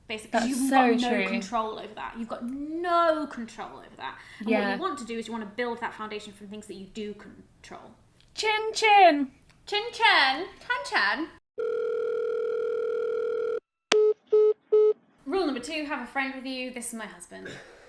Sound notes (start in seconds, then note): 11.6 phone rings; 14.0 phone beeps